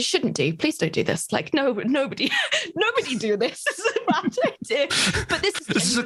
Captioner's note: laughs